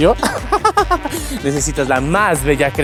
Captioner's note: laughs in delusion